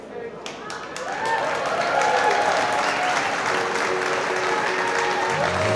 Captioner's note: audience applauding; calm music